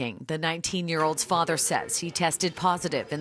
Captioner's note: alternate language